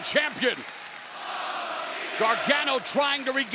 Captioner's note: crowd chants "Mama Mia"